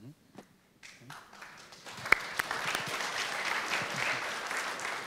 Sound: audience applauding

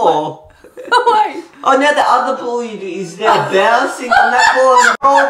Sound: laugh; laughing

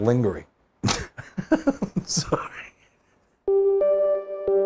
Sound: laughs

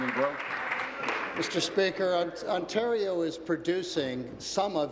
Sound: applause

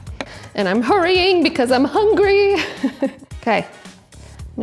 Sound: laughing

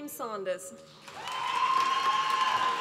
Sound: applause

